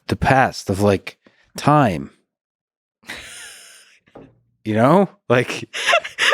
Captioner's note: laughing